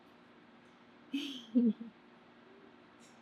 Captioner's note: laughs